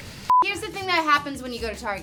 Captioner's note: beep